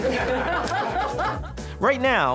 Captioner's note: laughing together